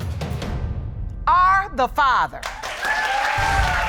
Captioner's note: audience cheering